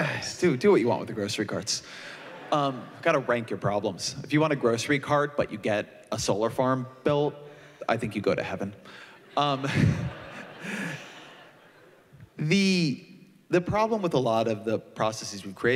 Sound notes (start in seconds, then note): 9.2 laughter